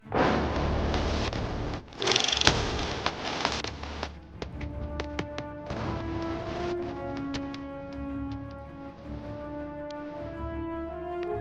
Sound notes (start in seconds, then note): 0.3 dramatic music; 0.3 film reel sound